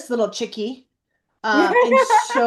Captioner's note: laughs